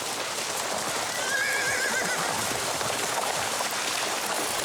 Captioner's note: horse neighing